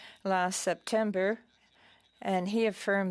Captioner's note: speaking French